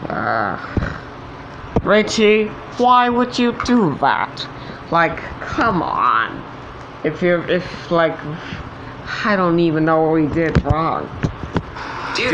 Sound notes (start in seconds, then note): 8.2 stammering